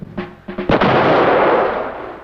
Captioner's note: explosion